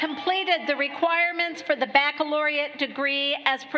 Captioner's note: cheering and applause